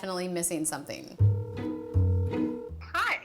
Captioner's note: phone line rings